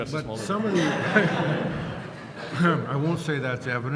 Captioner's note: laughter